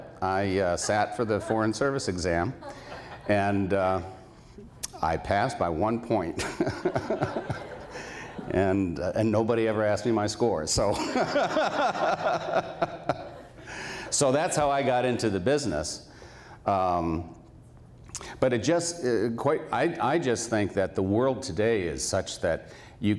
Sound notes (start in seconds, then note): 6.3 laughter; 11.0 laughs